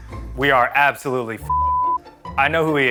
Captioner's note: beep